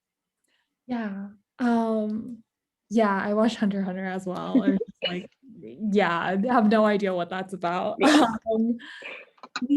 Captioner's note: laughs